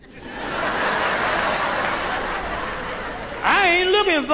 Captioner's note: audience laughing